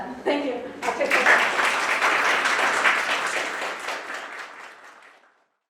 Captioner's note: crowd gives a round of applause